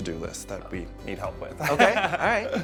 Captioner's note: chuckles